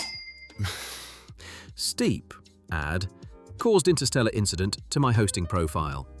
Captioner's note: laughing